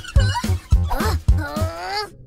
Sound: mice chattering; sigh

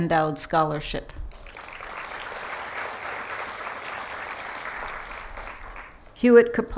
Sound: applause

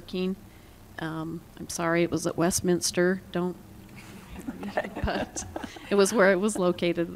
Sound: laughter

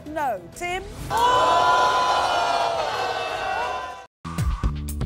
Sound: audience gasping

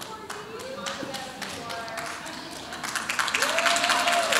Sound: audience applauds

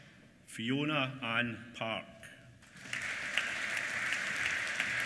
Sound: applause

